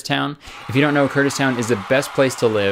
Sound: crowd Cheering Sound effect

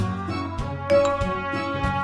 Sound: Messenger pings

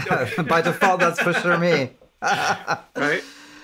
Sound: laughing

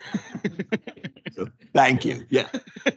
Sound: council members laugh

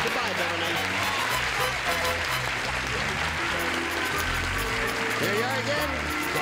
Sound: applause

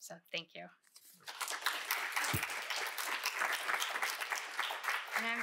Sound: applause

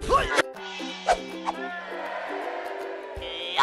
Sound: cheering

